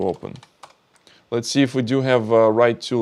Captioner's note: keyboard clicking